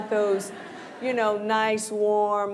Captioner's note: laughter